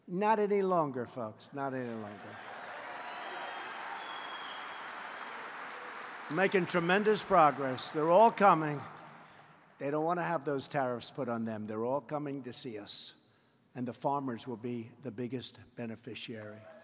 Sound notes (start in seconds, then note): 1.7 applause